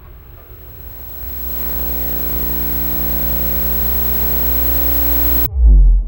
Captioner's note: Static